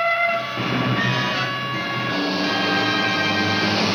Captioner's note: siren blaring